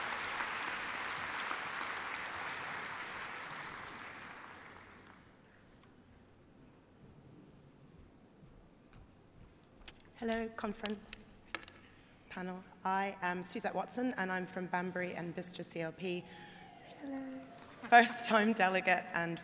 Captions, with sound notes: that we raise. What mustn't treat people as second class citizens, I move (applause)